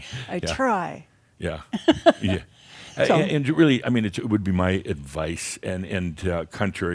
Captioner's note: she chuckles